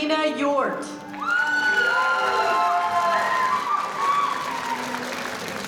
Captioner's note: audience applauding